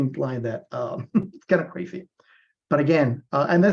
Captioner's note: laughs